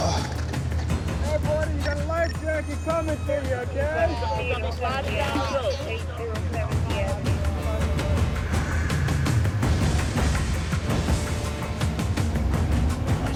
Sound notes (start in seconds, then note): 7.3 ship horn blowing; 9.9 music intensifies